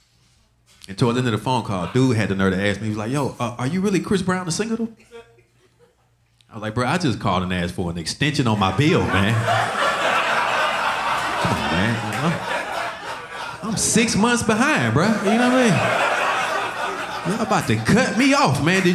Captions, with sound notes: And towards the end of the phone call, the dude had the nerve to ask me, he was like, "Yo, are you really Chris Brown the singer though?" I was like, "Bro, I just called and asked for an extension "on my bill, man." (audience laughing) Come on, man. I'm six months behind, bro, you know what I mean? Y'all about to cut me off, man.